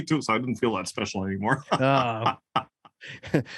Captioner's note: laugh